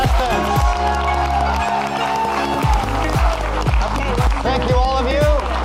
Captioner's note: audience clapping and cheering